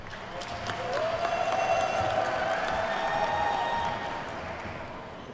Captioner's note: attendees cheer and clap